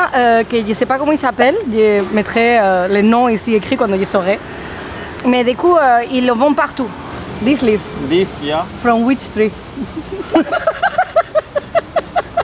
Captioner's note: laughs